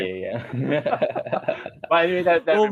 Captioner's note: laughter